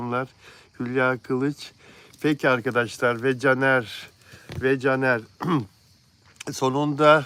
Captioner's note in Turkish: boğazını temizler